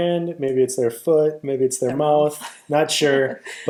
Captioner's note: laughs